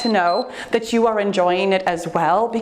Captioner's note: timer beeps